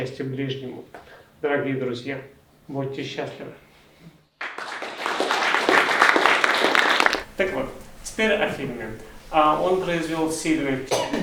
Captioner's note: applause